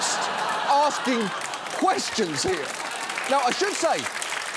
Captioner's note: audience laughs; audience applauds